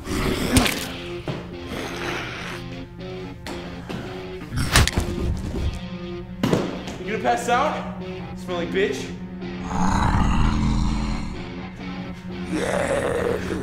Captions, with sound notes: (blow squishes) (blow thuds) (body clatters) You gonna pass out? Smelly bitch. (zombie growls)